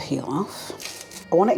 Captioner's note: crinkly rustle